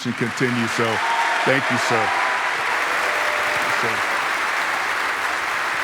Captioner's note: audience applauding